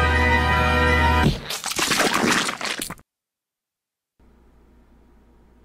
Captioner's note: creature explodes